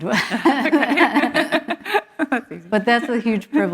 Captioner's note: laughter